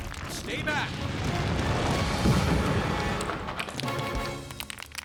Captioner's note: rocks Rumble & Clatter